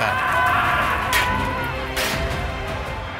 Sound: men shouting

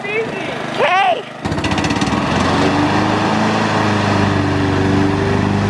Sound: lawnmower engine revving

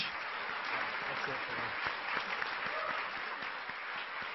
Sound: clapping

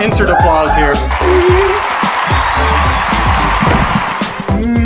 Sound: audience applauds

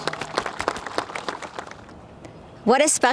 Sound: crowd applauds

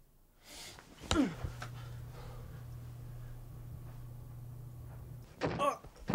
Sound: fist thudding; grunting

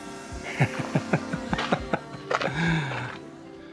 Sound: laughter

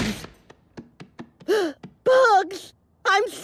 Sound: gasp

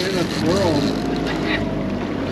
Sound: boat engine running

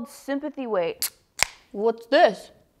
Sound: can top popping

